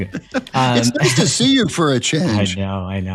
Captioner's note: laugh